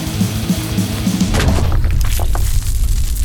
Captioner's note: debris; explosion